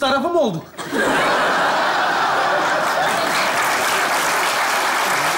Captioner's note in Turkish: Kahkaha ve alkış sesleri